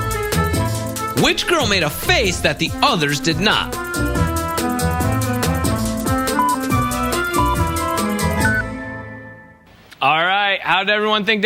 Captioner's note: blowing; yelling; blowing